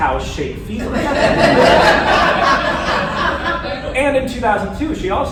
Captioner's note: laughter